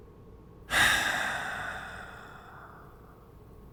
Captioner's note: sighs